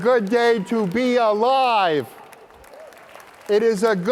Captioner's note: applause